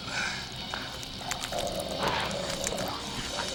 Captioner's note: Talon panting